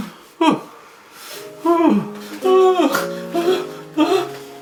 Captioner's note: Larry panting